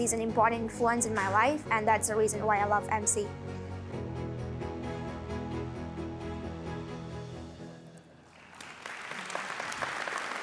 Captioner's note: applause